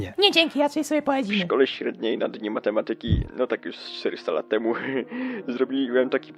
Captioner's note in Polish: głos Guziczkowskiego z TV